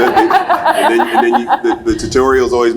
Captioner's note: laughs